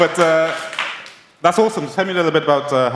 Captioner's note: applause